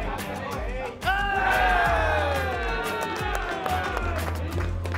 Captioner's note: cheering